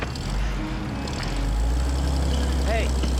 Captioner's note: engine revving